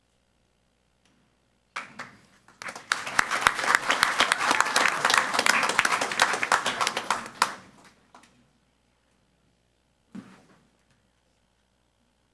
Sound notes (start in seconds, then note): 2.4 crowd clapping and cheering